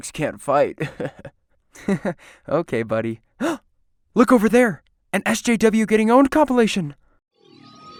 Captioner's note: gasp